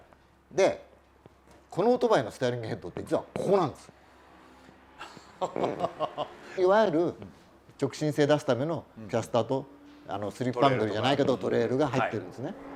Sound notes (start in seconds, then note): 5.0 laughter